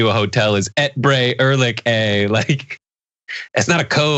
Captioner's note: laugh